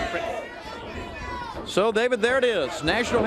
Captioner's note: crowd chatter